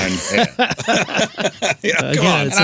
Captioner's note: laughing